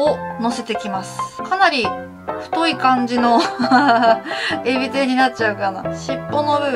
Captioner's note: laugh